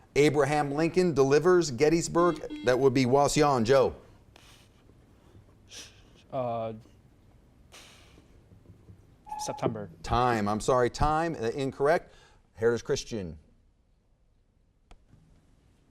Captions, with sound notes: Abraham Lincoln delivers Gettysburg-- (buzzer beeps) That would be Wauseon, Joe. (timer buzzes) - September. - Time, I'm sorry, time, incorrect. Heritage Christian?